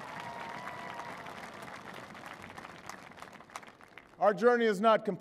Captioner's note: applause